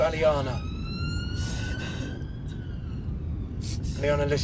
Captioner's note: siren wailing